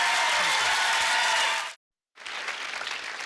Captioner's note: clapping